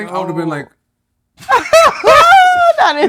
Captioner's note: laughter